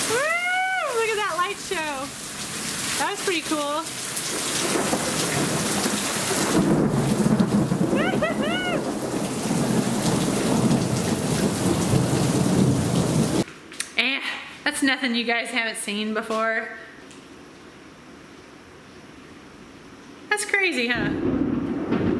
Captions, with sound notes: Woo, look at that light show! That was pretty cool. (thunder) Woo-hoo-hoo! (thunder) Eh, that's nothing you guys haven't seen before. That's crazy, huh?